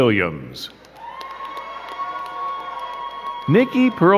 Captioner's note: crowd cheering and clapping